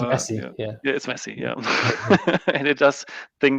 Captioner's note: laughs